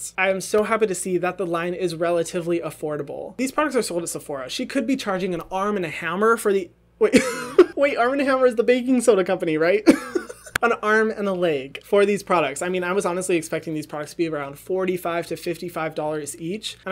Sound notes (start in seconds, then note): 7.3 laughs